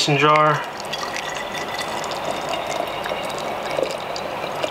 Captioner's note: liquid trickling